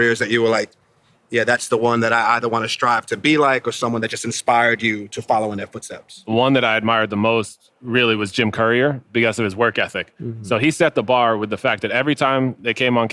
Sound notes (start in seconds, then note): none